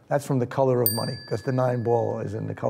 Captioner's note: bell dings